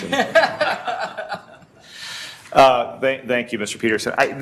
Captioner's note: laughter